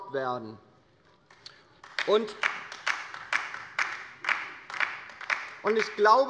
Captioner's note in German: Beifall bei der LINKEN